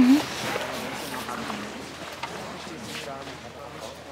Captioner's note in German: Stimmengewirr im Hintergrund